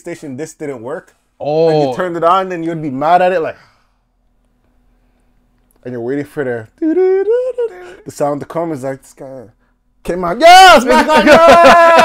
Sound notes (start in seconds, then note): 6.8 humming